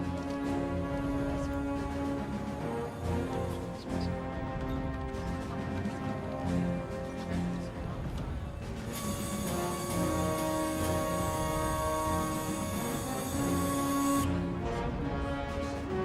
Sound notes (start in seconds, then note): 8.8 machine sound